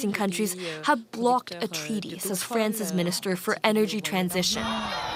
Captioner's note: speaking French